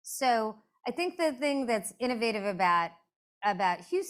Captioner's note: none